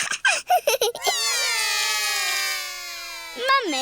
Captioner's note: laughs; all cry